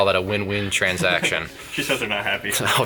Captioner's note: laughs